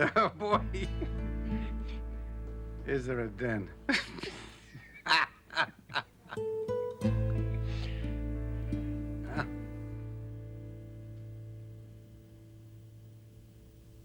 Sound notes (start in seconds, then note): 3.8 laughing